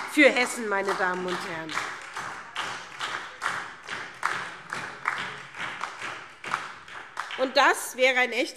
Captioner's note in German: Beifall SPD